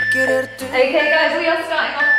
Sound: beeping

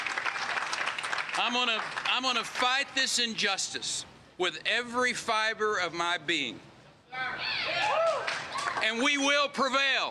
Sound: applause

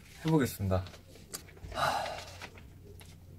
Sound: sigh~~

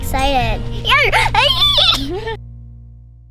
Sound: squeals

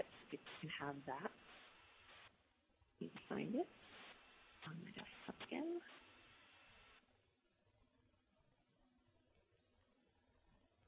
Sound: pause

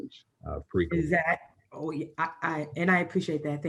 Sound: overlapping chatter

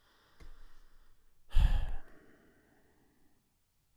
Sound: sigh

